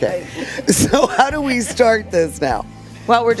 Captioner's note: laughs